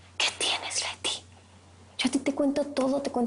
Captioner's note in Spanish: Susurra